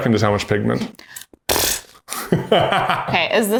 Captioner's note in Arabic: ينفخ التوت; يضحك بصوت عالٍ